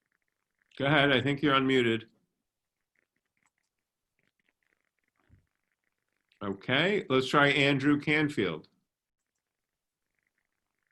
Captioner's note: long pause